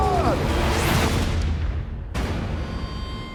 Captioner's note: gunshot